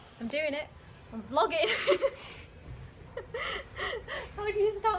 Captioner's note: laughs